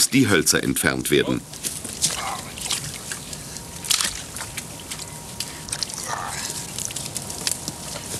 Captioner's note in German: Arbeitsgeräusche und -gespräch